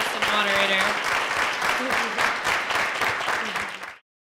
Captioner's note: applause